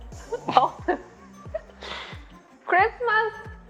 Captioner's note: laughing